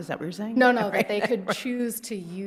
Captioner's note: justice chuckles